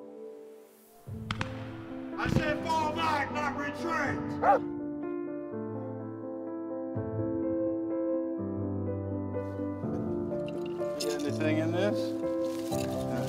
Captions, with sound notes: I said fall back, not retreat. (Willamina barking) (gentle music) Is there anything in this?